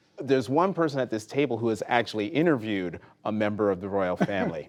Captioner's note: laughter